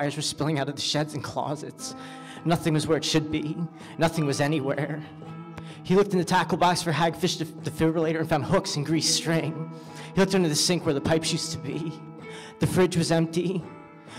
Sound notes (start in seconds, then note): none